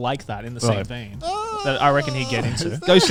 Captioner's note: wails